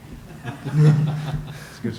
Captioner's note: laughter